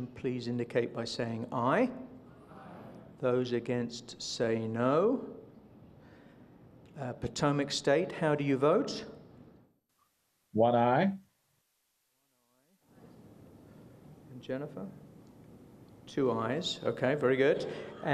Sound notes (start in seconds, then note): 6.4 silence